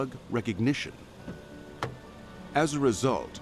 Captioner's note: car door opening